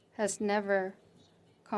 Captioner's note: speaking French